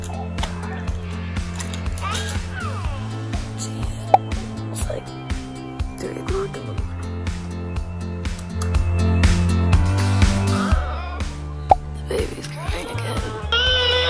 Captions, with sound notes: Geez. It's like 3:00 in the morning. (baby crying) The baby's crying again.